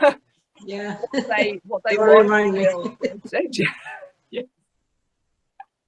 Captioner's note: laughs